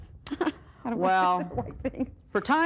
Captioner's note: chuckling